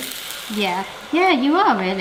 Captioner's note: egg mix sizzling